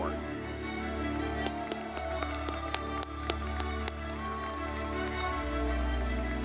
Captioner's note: dramatic music; audience clapping